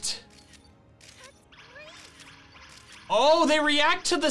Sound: photo snapping

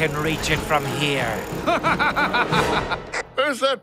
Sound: sinister laughter

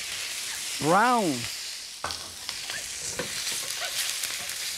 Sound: chicken sizzling

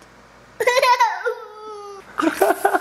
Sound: laughter

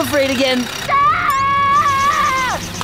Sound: screaming

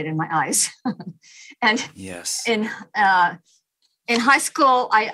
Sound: chuckles

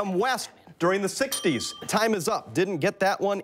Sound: bell rings

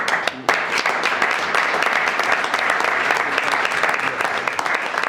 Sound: audience applauds

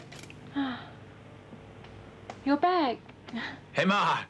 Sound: sighs

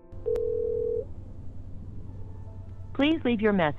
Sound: phone ringing

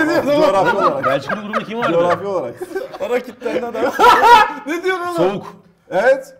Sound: laugh

